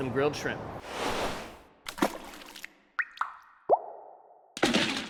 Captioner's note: splashing and dripping